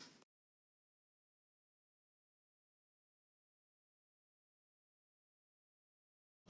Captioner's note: silent credits